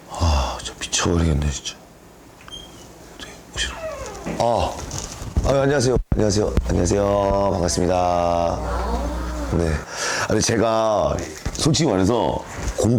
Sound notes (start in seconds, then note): 3.6 creak; 8.4 inhale